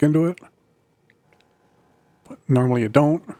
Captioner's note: silence